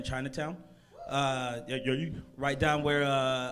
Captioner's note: crowd member cheers